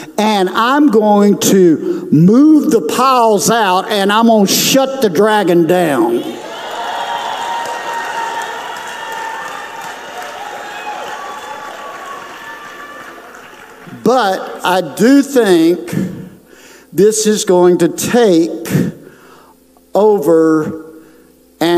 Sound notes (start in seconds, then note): 10.7 audience applauds